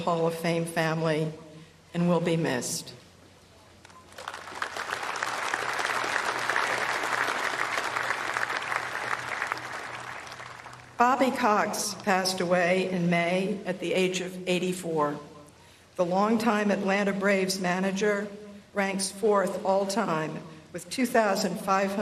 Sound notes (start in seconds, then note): 7.6 applause